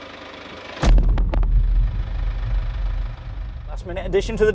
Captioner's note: car engine whirring; dramatic thud